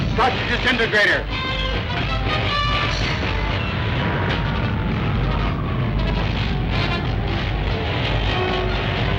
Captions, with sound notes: Start the disintegrator. (machine buzzes)